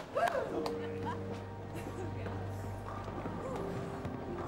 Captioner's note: crowd woos; gentle music